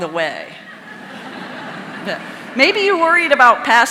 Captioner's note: audience laughing